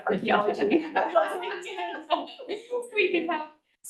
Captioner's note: board members laughing and chattering